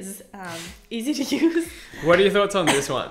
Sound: lady laughing

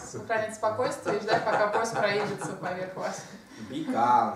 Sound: hahaha

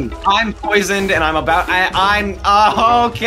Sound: stammers

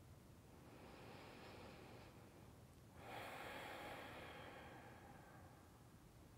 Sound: breathes in and out calmly

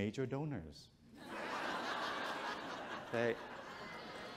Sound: audience chuckles

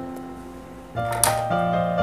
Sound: scissors clatter

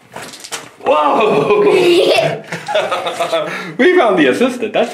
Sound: chuckles

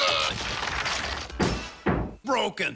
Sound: bump

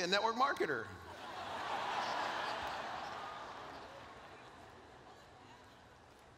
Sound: laughter

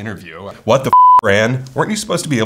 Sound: beep

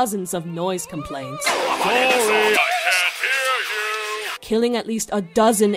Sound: shouting

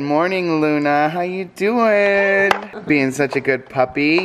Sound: laughing

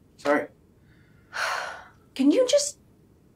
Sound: Nikki sighs

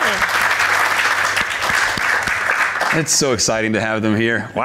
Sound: audience applauding

